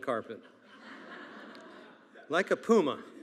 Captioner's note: attendees laughing